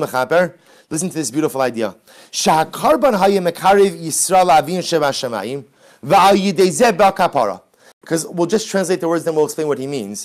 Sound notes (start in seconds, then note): 0.0 Hebrew